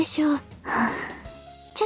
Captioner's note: sigh